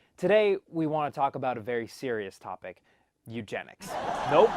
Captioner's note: laugh track